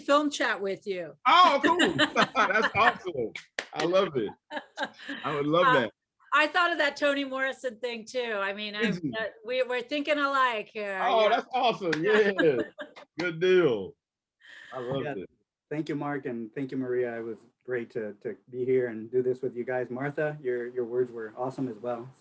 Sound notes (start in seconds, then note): 4.0 laughs